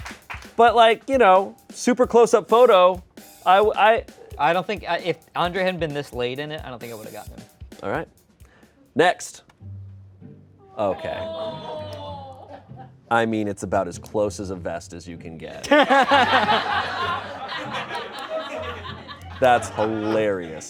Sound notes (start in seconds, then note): 11.9 crew exclaims; 15.6 everyone laughs